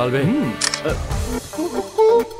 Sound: camera flash

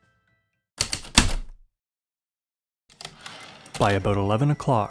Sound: heavy typewriter keystrokes and slide return

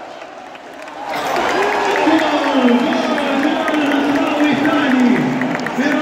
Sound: clap

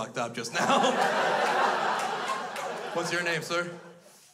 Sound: crowd laughs

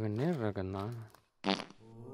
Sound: farting

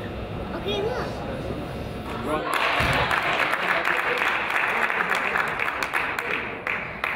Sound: crowd applauds

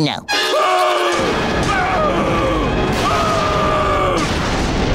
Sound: screaming

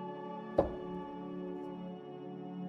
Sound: slamming the table

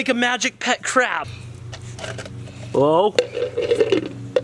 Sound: cups rattling

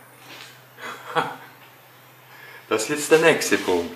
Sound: laughs

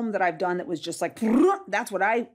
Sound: warbles

